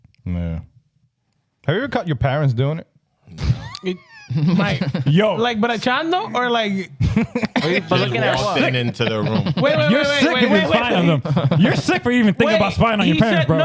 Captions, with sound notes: Have you ever caught your parents doing it? (Laughing) Like, but a chan though, or like-- (Laughing) They're just walking into their room. Wait, wait, wait, wait, wait, wait, wait. You're sick for even thinking about spying on your parents, bro.